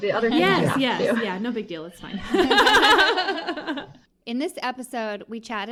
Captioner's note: sarcasm, laughter